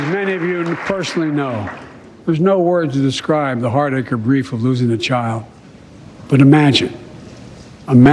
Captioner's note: applause